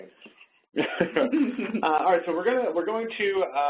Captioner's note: both laugh